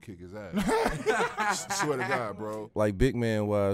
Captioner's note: laughter